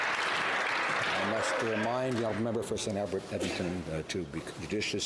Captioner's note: some Applause